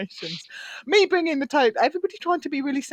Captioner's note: laughs